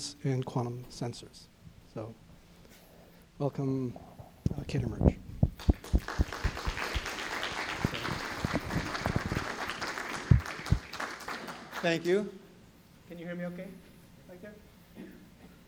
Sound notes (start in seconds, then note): 5.5 applause